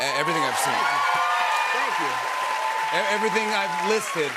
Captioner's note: cheers and applause